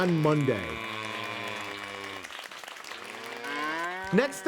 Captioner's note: mooing and applauding continues